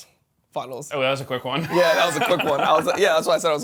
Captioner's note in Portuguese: risos